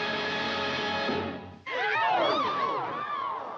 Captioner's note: all gasp and yelp